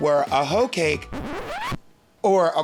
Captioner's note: record scratches